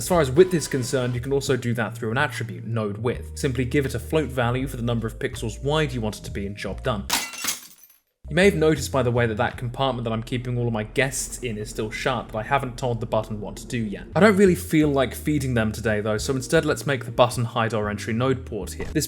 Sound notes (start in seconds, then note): 7.1 glass shattering sound